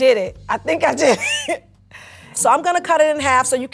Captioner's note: chuckles